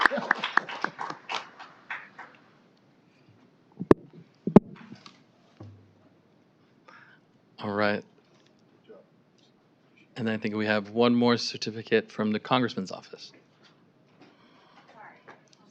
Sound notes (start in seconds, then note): 1.7 applause